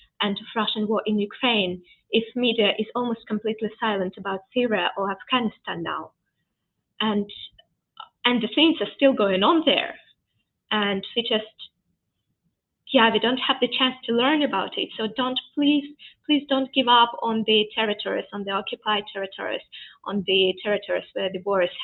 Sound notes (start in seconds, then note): none